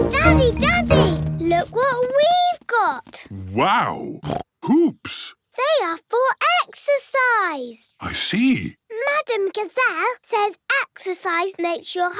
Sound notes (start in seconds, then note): 4.2 snorts